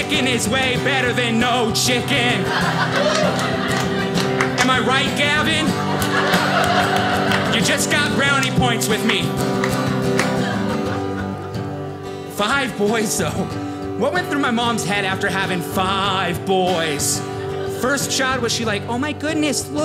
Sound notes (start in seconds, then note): 1.9 audience laughing